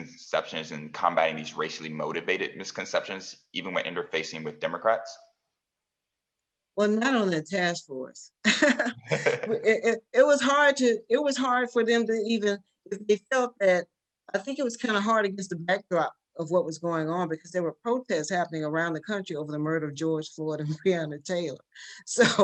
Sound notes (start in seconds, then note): 8.6 laugh